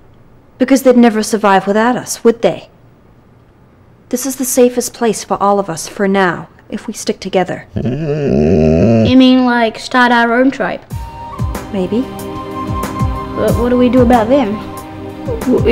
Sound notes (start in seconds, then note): 7.7 dog gnarling